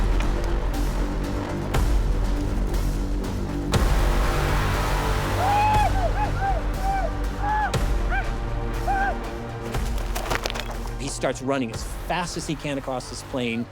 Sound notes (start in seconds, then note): 5.3 warriors shouting